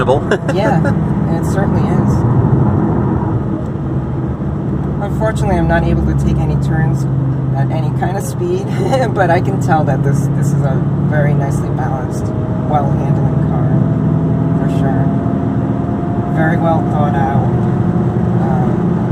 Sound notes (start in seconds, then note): 8.6 laughs